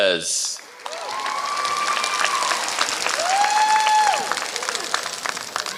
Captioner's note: applause